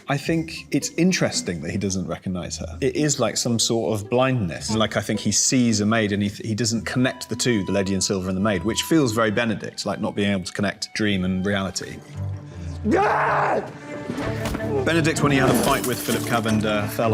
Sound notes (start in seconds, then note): 12.8 Cavender screaming